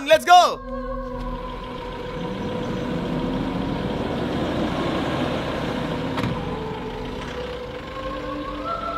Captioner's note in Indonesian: Suara mobil